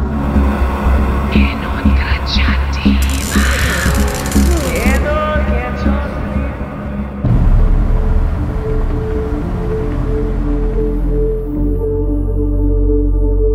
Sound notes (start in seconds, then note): 1.3 chanting in foreign language; 7.3 light dramatic music